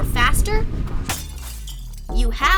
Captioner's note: truck crashes